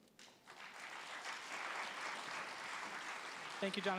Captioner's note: applause